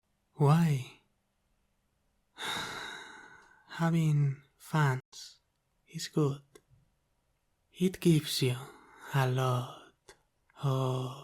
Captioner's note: sigh